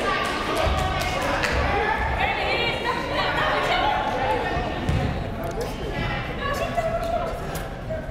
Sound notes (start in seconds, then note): 4.2 crowd murmuring